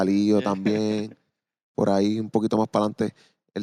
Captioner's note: laughing